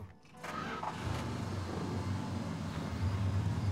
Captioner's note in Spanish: motor acelerando